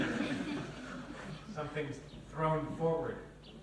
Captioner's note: laughter; laughs